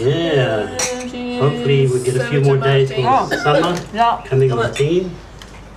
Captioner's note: glasses clink